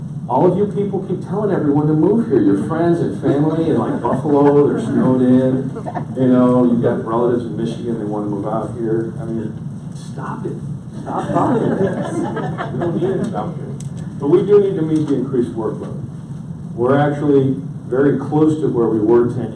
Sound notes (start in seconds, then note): 5.9 audience laughs; 11.0 audience laughs